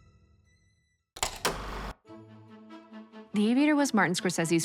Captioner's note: film reel clicks